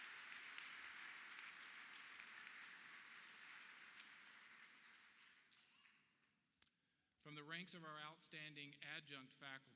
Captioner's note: applause